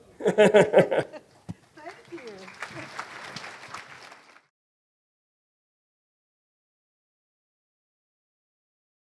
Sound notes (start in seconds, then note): 0.2 both laughing; 3.3 audience applause